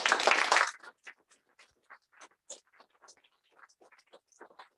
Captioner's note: applause